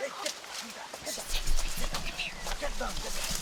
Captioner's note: none